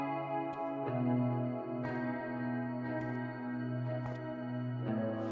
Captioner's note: footsteps pattering